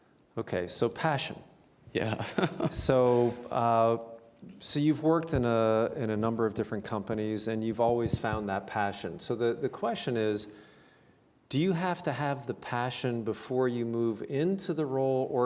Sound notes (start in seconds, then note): 2.0 laughs